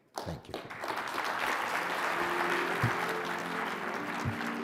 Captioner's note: audience applauding